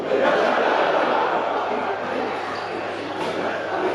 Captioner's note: audience laughing